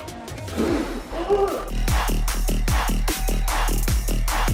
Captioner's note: groans